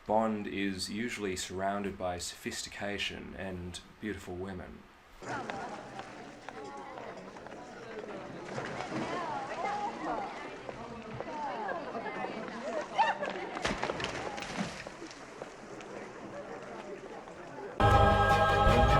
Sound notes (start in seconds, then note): 5.2 indecipherable chatter, footsteps, water splashing; 17.8 loud, dramatic music